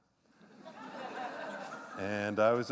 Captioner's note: laughter